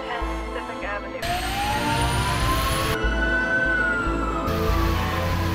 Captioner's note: sirens blare